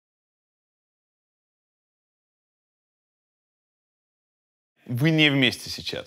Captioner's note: title card uncharacteristically fades in in silence